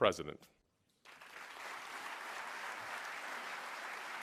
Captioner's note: applause